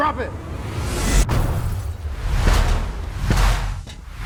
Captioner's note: slow whoosh